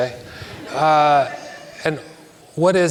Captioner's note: audience laughs